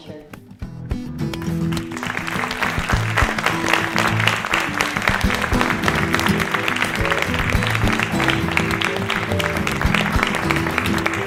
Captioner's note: applause